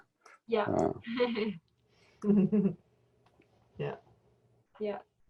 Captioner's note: lady laughs